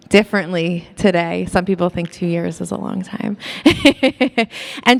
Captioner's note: laughs